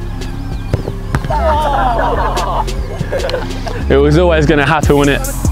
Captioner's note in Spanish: risas